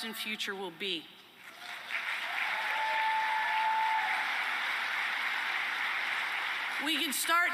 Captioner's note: applause and cheering